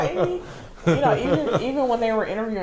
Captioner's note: laughing